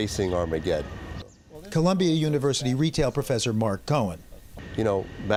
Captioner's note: voice-over